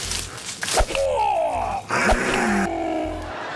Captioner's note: exhales sharply; hisses; grunts; groans